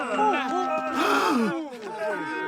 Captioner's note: gasps